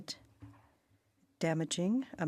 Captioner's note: speaking French